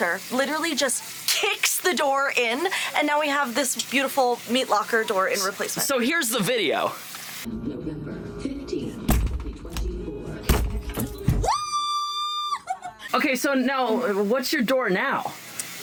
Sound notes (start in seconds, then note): 10.4 door thudding; 11.4 screaming